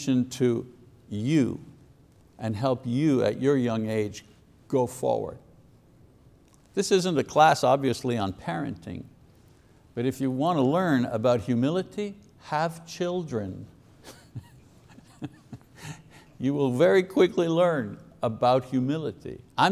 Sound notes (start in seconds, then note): 14.0 laughs softly